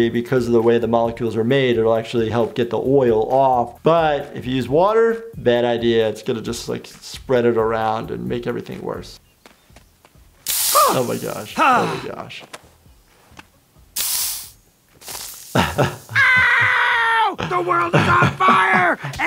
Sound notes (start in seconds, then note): 9.4 footsteps clanging; 10.4 spray hissing; 11.5 man grunting; 13.9 spray hissing; 15.5 laughing; 16.0 Randall screaming